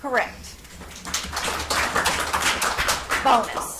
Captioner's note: audience applauds